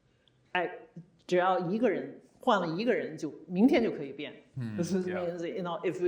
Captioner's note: speaking Chinese